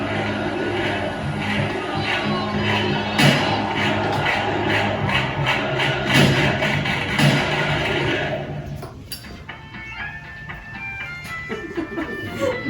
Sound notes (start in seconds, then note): 2.7 gunshots; 9.6 playful music